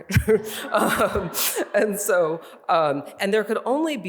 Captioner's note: laughs; audience laughing